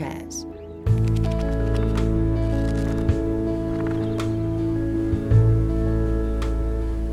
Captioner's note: light music; pages flipping